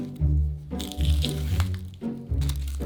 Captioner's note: knife chopping; onion paper rustling